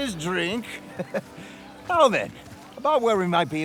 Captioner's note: laughs